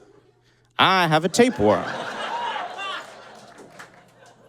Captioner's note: audience laughs hysterically